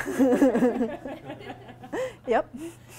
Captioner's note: laughing